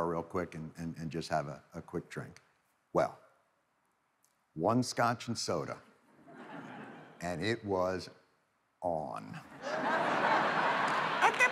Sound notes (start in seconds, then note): 5.5 audience titters; 9.5 audience laughs